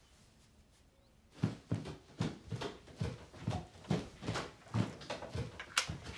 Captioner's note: footsteps thudding